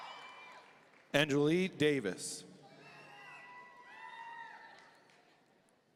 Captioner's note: audience cheering; audience cheering